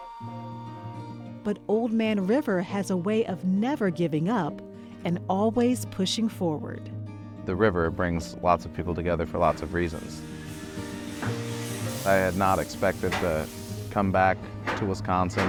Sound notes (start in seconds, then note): 9.4 torch sparking